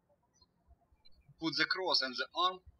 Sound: birds chirping

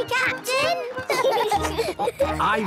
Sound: laughing

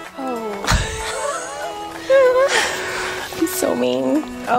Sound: both laughing

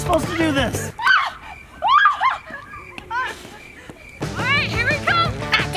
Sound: crickets chirping; shrieking

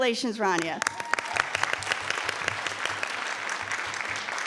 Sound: audience applauding

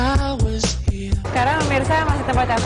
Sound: non-english speech

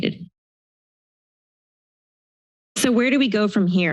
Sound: silence

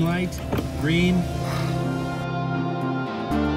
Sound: sighs

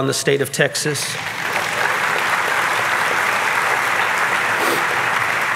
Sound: audience clapping

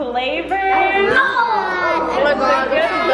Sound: excited chattering

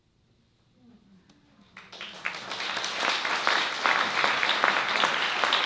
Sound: applause

